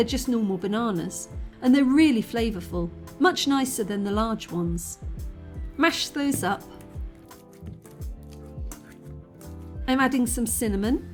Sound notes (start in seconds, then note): 6.1 banana mashing; 7.5 chill lofi music